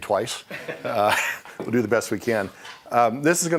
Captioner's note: laughing